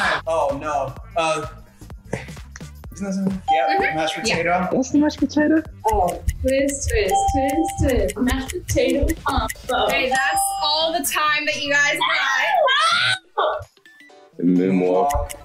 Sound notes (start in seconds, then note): 5.6 clock ticking; 11.8 both exclaim